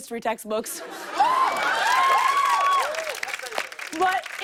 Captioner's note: cheers and applause